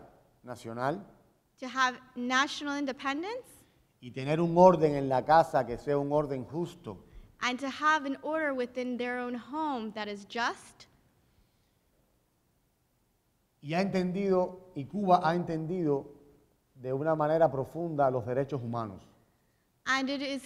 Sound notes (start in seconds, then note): 4.1 speaking in Spanish; 13.5 speaking in Spanish